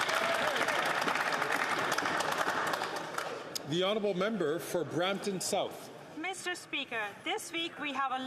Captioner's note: some Applause